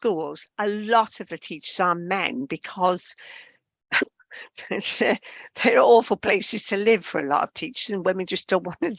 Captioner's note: laughs